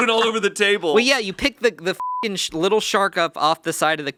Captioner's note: beeping